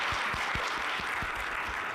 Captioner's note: clapping